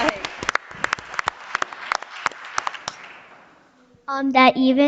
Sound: audience applauding

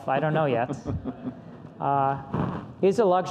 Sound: laughs

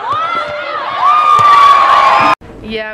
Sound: cheering and applause

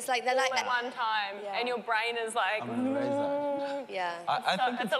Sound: humming

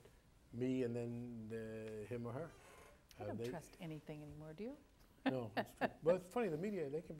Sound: laughs

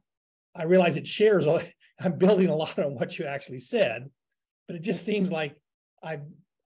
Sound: laugh

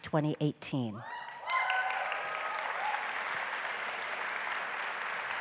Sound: audience applauds

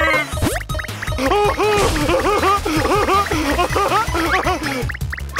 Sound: laughing

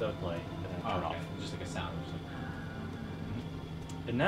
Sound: making generator noises

